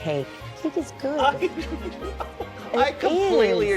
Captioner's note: laughter